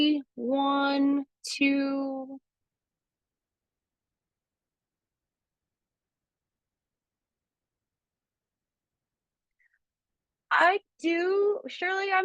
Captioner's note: elongated pause